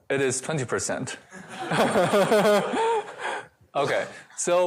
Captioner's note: laughter